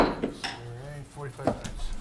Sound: gavel taps; man speaking distantly

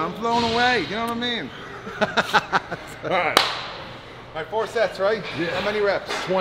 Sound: laugh

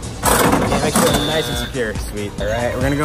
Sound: loud buzzer

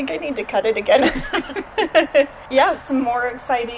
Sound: laughs

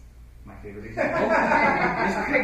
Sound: laughter

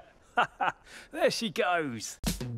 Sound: laughs

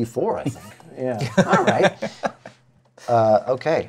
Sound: laughs

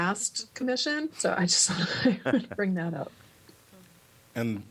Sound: laughter

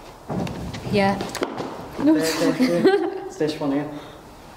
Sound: faint thudding

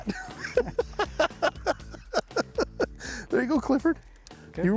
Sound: chuckling

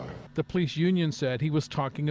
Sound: chanting

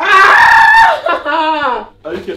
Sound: screams

